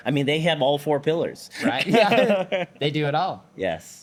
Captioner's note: both laughing